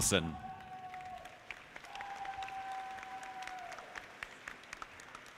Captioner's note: audience clapping